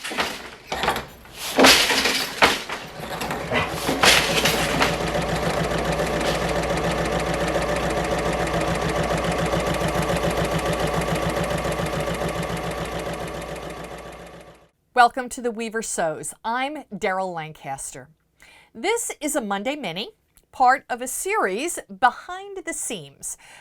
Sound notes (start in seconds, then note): 4.6 sewing Machine Sounds